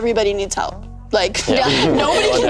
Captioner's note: all laughing